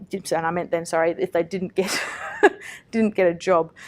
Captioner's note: laughs